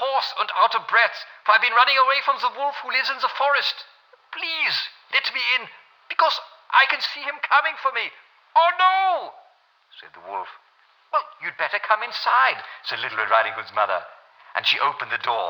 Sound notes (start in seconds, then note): 0.0 LRRH voice with German accent; 10.0 mother's voice